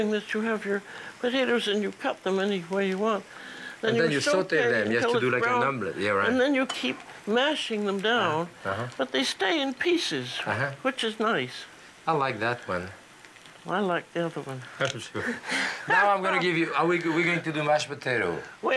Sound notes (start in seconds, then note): 15.1 Julia laughing